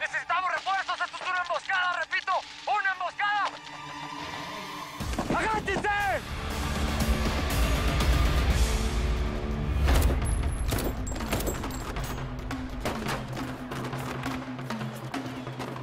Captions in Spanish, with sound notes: - !BASE, NECESITAMOS REFUERZOS, ESTO ES UNA EMBOSCADA! REPITO, !UNA EMBOSCADA! !AGACHENSE! [Disparos]